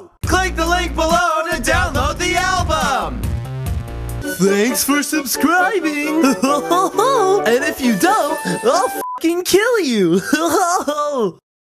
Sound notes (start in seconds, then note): 4.2 goofy voice; 10.2 guffaws